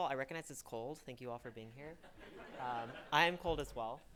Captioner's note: audience laughing